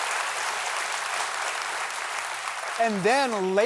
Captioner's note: applause